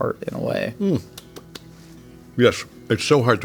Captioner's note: J.K. clapping